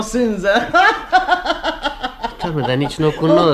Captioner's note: the woman laughs